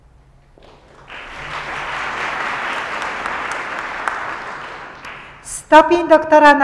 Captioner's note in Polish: oklaski